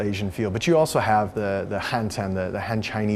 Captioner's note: speaking foreign language